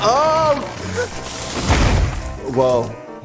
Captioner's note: tree thud